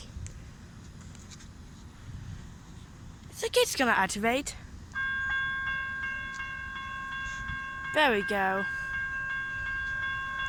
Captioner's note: crossing activates